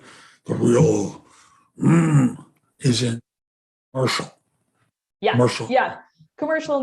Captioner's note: grunt